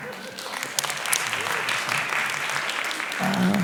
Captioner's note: applause